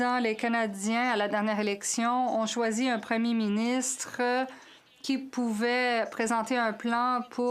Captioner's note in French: voix de l'interprète